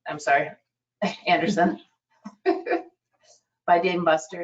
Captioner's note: laughs